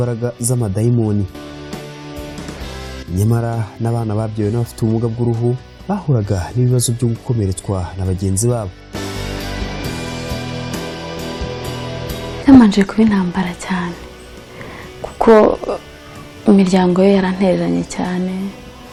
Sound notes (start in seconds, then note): 9.3 soft music; 12.9 speaking in Kinyarwanda